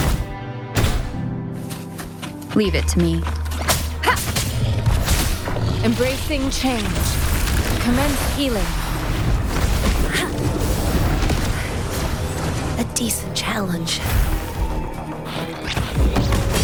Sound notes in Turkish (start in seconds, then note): 3.3 Çatışma sesleri